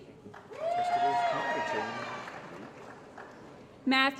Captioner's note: applause & Cheering